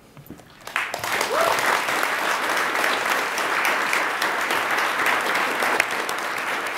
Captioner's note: attendees applaud